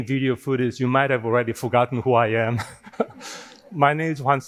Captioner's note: laughing